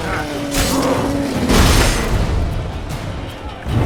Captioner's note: howl; loud crackle